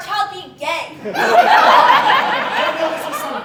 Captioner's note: audience Laughing